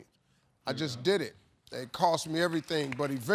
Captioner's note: audience applauding